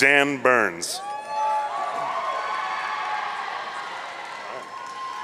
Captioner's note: audience cheering